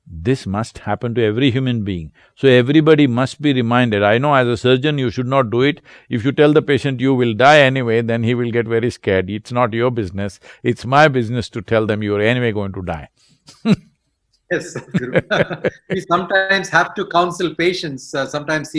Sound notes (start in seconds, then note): 13.5 laughs